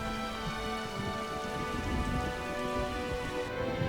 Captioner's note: thunder Rumbling